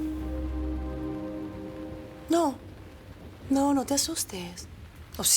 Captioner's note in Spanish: none